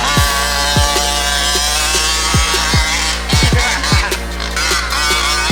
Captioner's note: RC engine accelerating